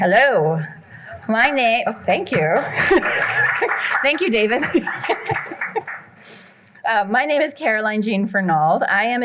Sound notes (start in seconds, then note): 2.2 applause